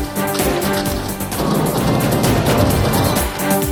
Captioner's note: gunshots